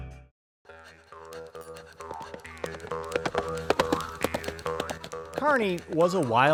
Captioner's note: twangy western music; galloping